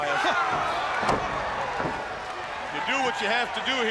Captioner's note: crowd cheering